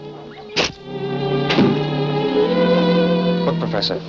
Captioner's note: arrow shoots